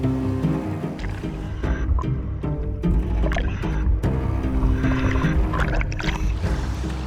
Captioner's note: suspenseful music continues; water splashing